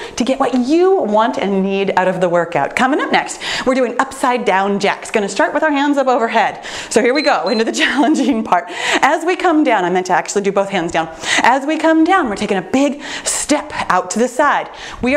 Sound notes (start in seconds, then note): 7.0 timer beeps